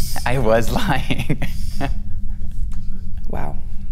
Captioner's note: laughs